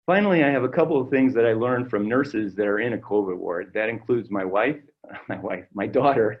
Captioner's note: chuckle